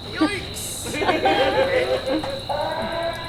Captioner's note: audience laughs